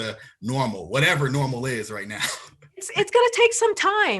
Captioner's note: chuckles